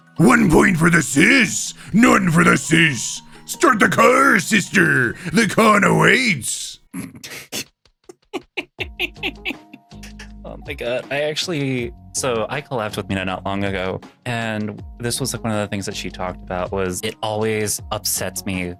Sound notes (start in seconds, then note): 7.3 laughing